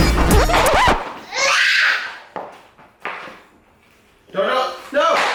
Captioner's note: child screaming